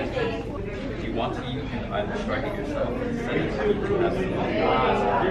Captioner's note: students conversing